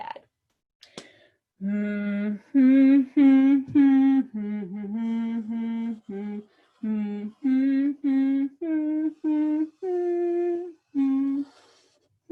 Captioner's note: humming